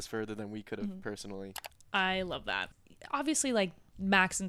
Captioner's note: computer mouse clicking